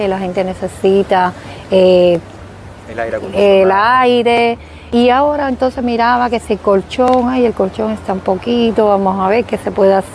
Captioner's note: air conditioning